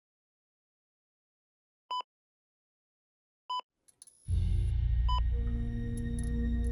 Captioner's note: machine beeps